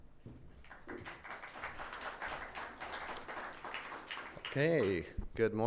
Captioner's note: audience applauding